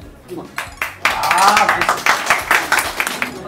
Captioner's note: Applause to director Sim Kwon-ho